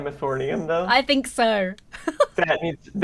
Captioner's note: laughs